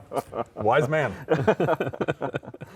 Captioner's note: laughing